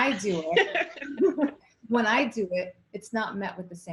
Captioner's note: laughing